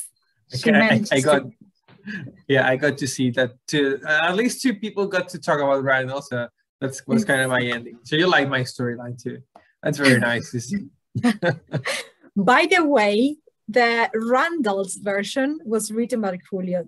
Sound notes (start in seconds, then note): 11.1 chuckle